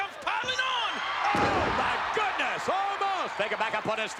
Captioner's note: spectators cheering